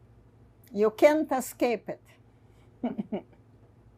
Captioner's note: laughing